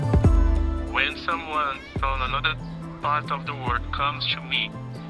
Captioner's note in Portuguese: homem em inglês